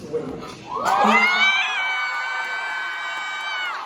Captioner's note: Audience explodes like clone trooper Echo at the Citadel